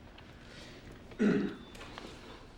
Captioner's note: john clears throat